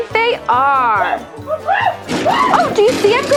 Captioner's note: exciting gorilla sounds